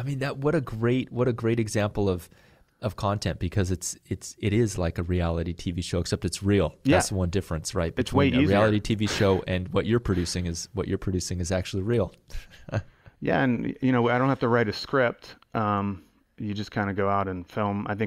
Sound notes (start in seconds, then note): 12.2 chuckle